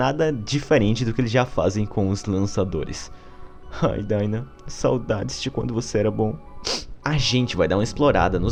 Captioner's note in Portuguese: sniff